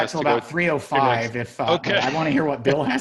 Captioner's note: laughs